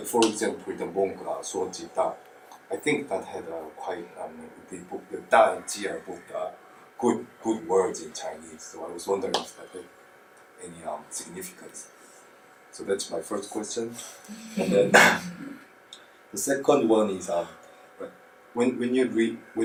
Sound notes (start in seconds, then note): 14.6 audience laughs